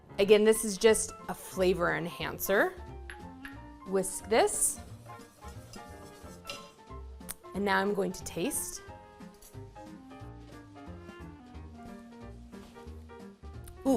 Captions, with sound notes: Again, this is just a flavor enhancer. Whisk this. (whisk scraping) And now I'm going to taste. (upbeat festive music continues)